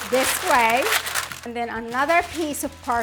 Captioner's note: paper crinkling